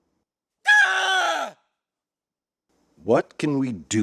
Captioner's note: scream